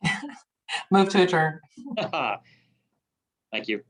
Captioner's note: chuckling